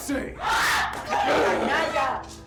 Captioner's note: Suzette screams in anger